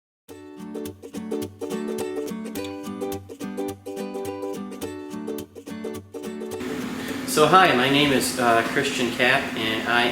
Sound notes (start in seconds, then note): 0.4 bright upbeat music; 6.6 machine roaring